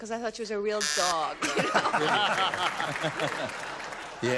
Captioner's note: laughter